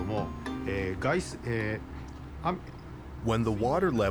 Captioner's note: speaking Japanese